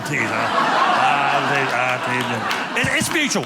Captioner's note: audience laughing